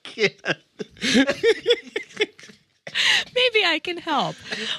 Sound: all laughing

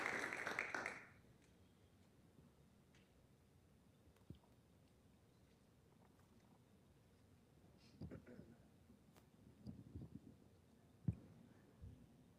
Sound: applause

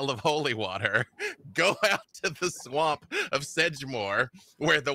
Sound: laughs

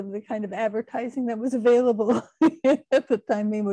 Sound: laughing

